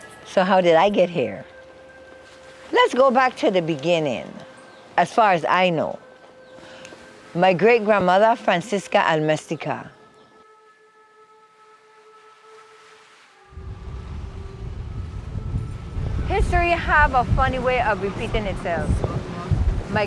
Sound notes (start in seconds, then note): 11.0 gentle serene music; 12.2 waves crashing